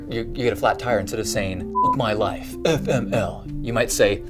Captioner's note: beep